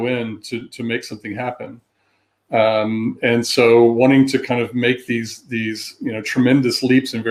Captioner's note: erm